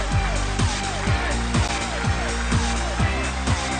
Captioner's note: applause